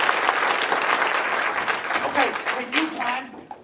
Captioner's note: loud whisper